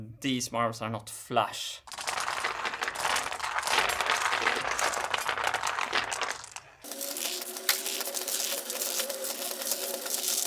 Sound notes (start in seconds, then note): 1.9 marbles rolling